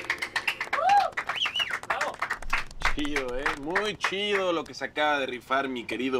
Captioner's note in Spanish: Aplauden